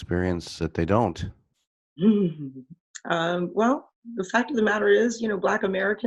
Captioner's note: laugh